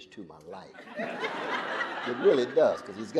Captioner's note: audience laughing